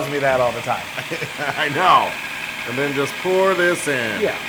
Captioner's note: laugh